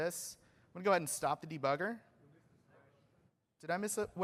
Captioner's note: off microphone